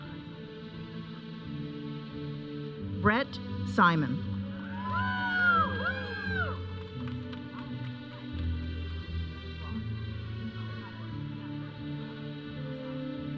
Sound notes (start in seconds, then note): 4.6 audience cheering; 7.7 audience chattering; 7.7 processional music